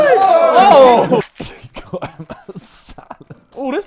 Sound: laughs

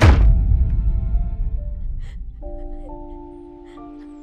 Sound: Rebecca crying

